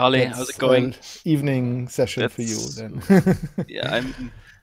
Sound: laughs

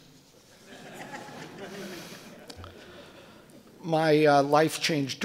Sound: audience laughing

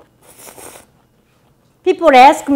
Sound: slurps

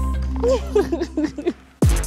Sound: laughing

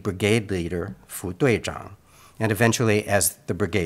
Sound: speaks in Mandarin

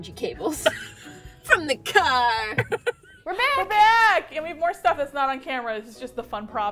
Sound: laughs

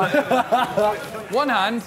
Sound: laughing

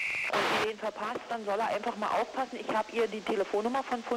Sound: German spoken audio

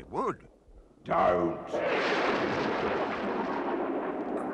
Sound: thunderclap

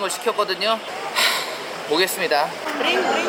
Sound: sigh

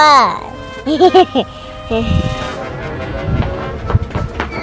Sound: laughing

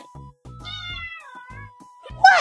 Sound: meowrowr

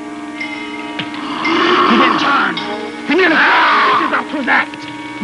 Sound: Cruzatte roars; Cruzatte growling viciously

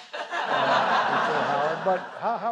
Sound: laughter

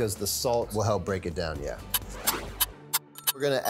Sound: clock ticking

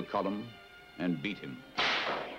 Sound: whip snapping

